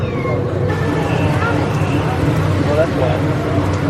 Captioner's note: raining heavily